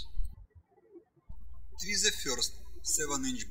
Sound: birds chirping

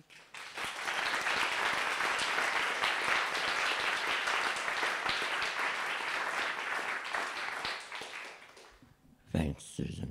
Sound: applause

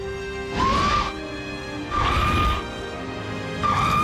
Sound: screams

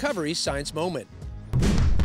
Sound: whoosh

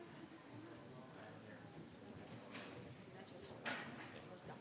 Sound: members chattering

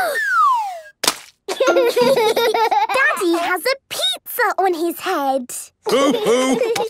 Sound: Peppa gasps; splat

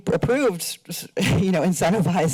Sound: chuckles

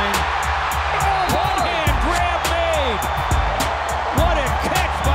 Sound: crowd cheering

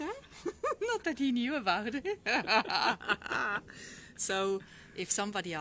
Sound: laughter 😀

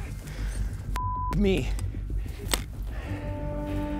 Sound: beep

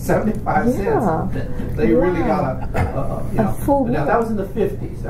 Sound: coughs

